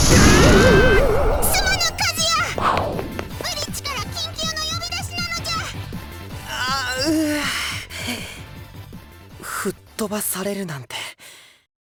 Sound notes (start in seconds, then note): 0.2 panicked cry; 6.5 pained groan